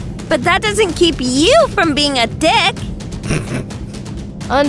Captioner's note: snicker